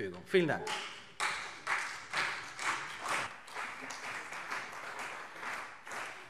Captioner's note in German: Beifall CDU